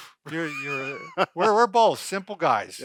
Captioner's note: laughing